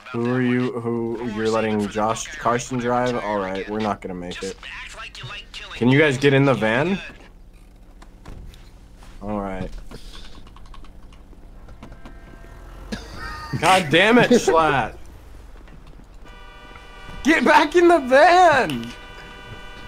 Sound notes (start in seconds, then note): 12.9 exhale